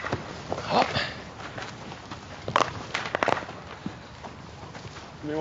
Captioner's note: grunting and bats cracking